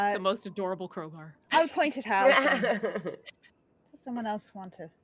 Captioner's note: laughing